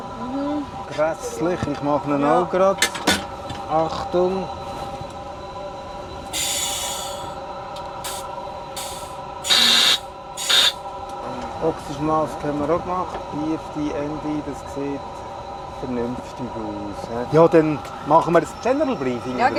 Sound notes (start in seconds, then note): 3.3 whirring sound; 6.3 clicking